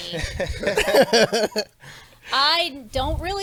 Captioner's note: laughs